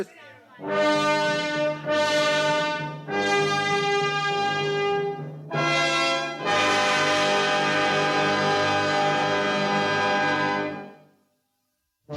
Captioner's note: horn